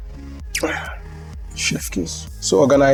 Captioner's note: mwah!